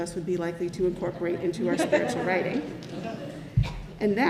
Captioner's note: congregation laughs